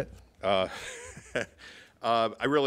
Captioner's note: laughs